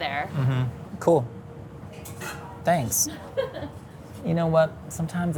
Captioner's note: laughs